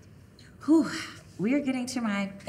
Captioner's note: exhaling